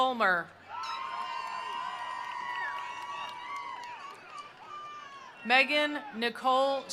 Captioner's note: attendees cheering; attendees applauding